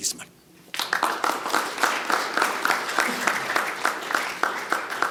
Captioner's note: audience applauding